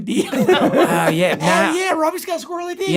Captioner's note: laughs